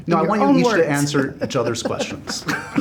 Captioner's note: laughs